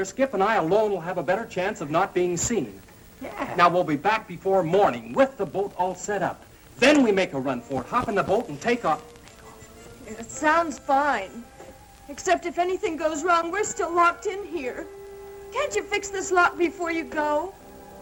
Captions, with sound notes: Skip and I alone'll have a better chance of not being seen. - Yeah! - Now we'll be back before morning with the boat all set up. Then we make a run for it, hop in the boat and take off. (shushes) - It sounds fine. Except if anything goes wrong we're still locked in here. Can't you fix this lock before you go?